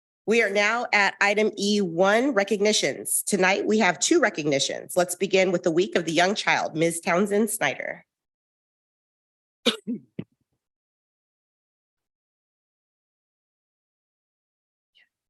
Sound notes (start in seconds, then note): 9.6 participant coughing